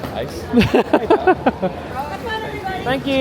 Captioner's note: laughs